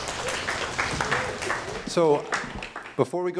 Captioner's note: applause